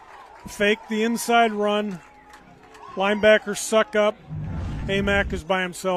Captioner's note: applause